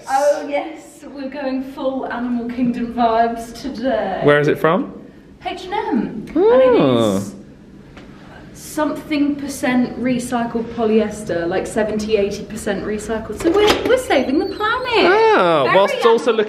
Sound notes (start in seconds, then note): 13.4 door creaking